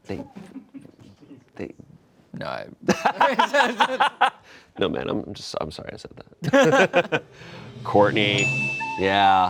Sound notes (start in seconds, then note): 2.9 laughing; 8.3 bell dings